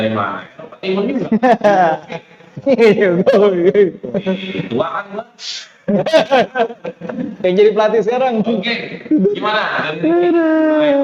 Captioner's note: laughs